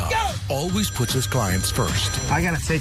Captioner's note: phone ringing